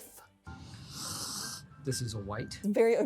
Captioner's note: sniffs